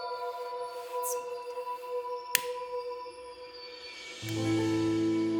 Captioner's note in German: Feuerzeug Klicken